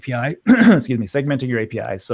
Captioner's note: clears throat